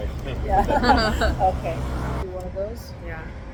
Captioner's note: ~~laughter~~